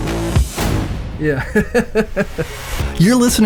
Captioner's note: laughs